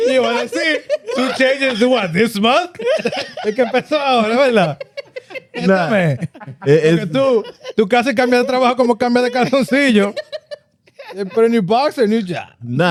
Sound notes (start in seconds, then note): 0.0 laughter; 0.0 speaking Spanish; 5.4 speaking Spanish; 5.6 laughter; 5.6 speaking Spanish